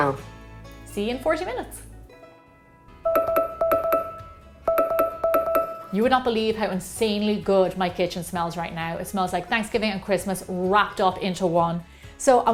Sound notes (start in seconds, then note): 3.0 ding ding!